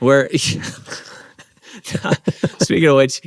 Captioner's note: both laughing